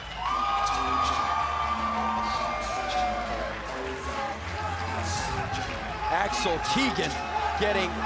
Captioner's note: crowd cheering